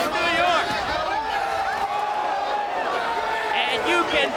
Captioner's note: crowd vocalizing